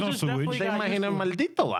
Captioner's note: speaking In Spanish